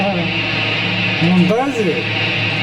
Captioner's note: speaking in Arabic